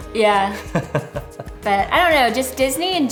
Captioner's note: laughs